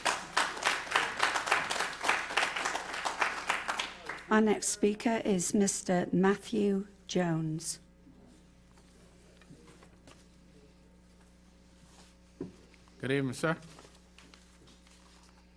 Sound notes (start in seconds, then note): 5.2 applause